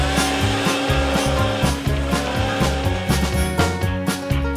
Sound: train chugging

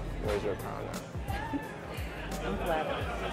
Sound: giggles

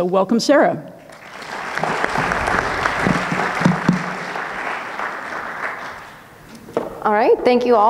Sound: audience clapping

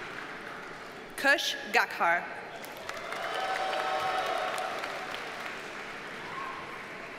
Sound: audience cheers and applauds

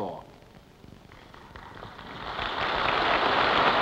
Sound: applause

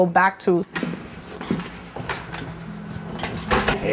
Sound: door opens, footsteps, door shuts

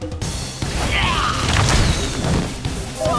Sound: screaming; explosion

